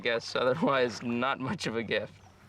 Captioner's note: sighs